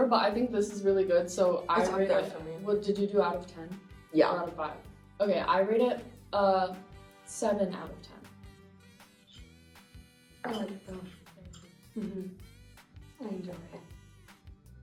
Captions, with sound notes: but I think this is really good, so I rate it- - It's up there for me. - What, did you do it out of 10? - Yeah. - Or out of five? - Okay, I rate it a seven out of 10. - I like it, though. (bowl clinking) - Good. - Mm-hmm. I enjoy it.